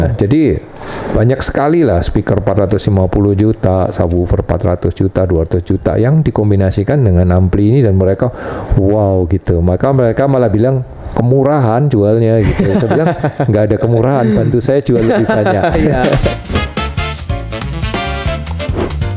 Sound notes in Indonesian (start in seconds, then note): 12.2 tertawa